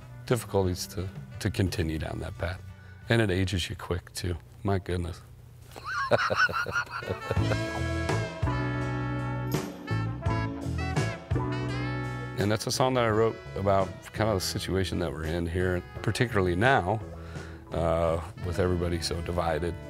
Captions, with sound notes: difficulties to continue down that path and it ages you quick too, my goodness (laughs). (horns playing) And that's a song that I wrote about kind of the situation that we're in here, particularly now with everybody so divided.